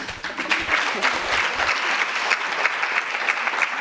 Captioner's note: audience applauds